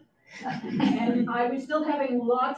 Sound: audience chuckles

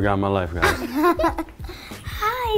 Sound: laugh

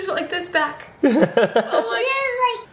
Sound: laughing

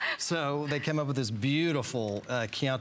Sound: laughter

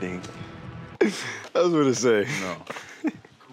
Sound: laughing

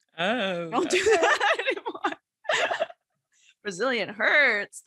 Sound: laughs

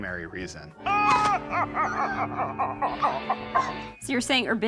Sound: evil laughing

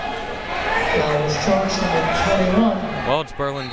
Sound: crowd members shouting

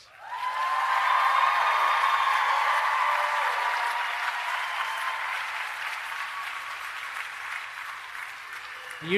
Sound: applause and Cheering

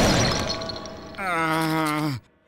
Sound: groaning

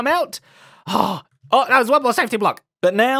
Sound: sighs

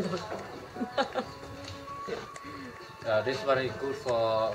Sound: laughter

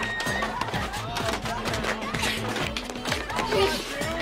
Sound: girl screaming; chairs cluttering; upbeat whimsical music

